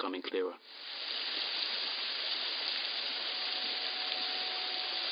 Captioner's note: river gushing